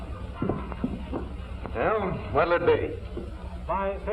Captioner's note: none